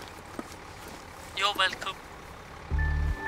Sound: man speaking on tablet; ambient music plays

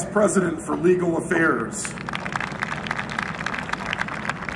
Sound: applause

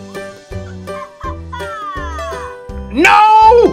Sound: toy laughs

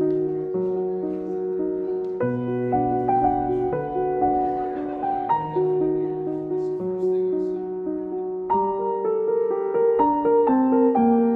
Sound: soft background chatter

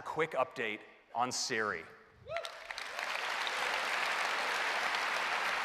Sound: applause

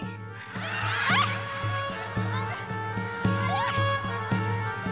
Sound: audience laughing

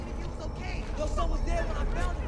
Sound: person Arguing

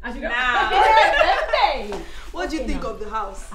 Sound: laughter

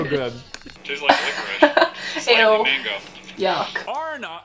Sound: laughing

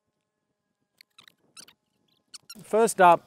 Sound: chipmunk noises

